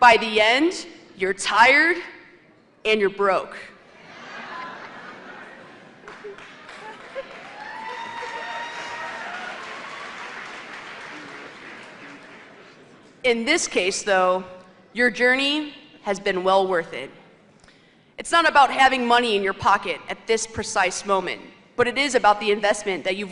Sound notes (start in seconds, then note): 6.0 cheers and applause; 6.8 laughter